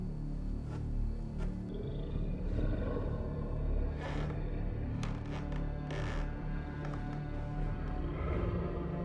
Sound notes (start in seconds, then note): 1.6 werewolf breathing; 4.7 footsteps creaking